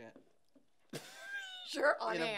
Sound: laughing

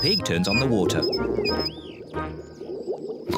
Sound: water glugging

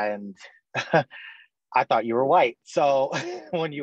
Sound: chuckles

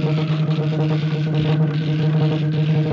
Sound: increasing electrical throbbing

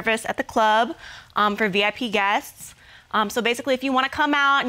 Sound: none

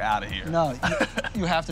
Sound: laughs

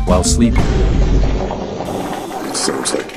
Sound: farts

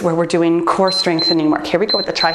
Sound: timer beeps

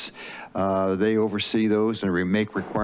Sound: inhales

